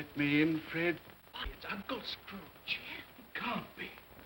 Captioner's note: guests murmur